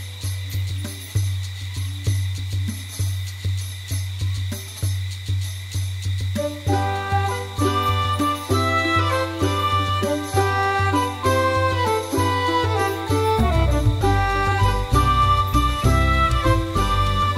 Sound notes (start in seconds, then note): 0.0 crickets chirping; 0.2 light festive music; 8.0 upbeat festive music; 11.1 bells shaking